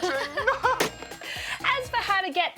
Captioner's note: laughs